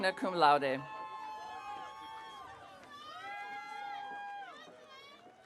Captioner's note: audience cheering